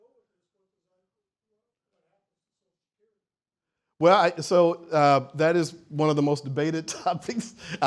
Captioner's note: silence